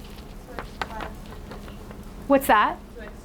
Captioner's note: speaking quietly